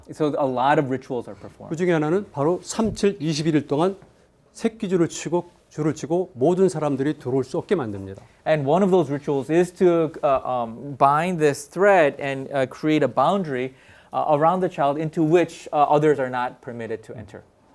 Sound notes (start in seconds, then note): 1.9 speaking in Korean